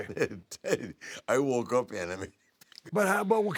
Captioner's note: laugh